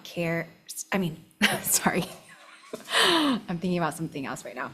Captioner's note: laughs